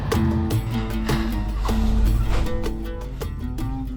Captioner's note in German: Schneuzen